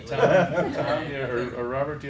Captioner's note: laughter